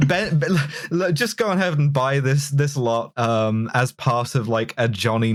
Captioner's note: bleak laughter